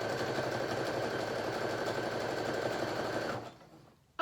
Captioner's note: sewing machine sounds